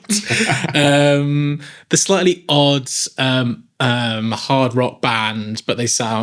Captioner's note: laughing